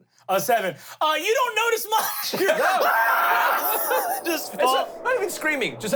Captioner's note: screams